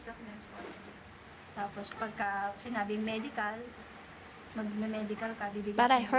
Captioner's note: speaks Filipino